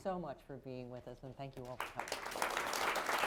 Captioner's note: applause